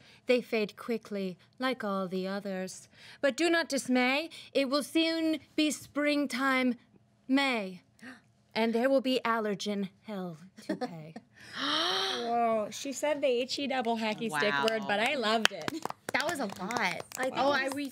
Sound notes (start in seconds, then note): 11.4 girls gasp; 15.4 girls applaud